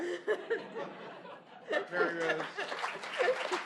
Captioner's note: laughter